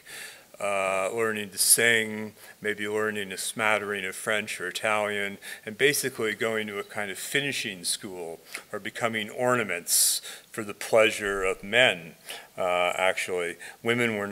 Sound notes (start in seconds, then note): none